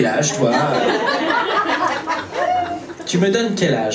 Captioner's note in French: rires public